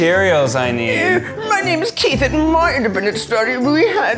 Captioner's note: mimics